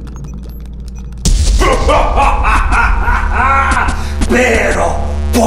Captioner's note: explosion; devil laughs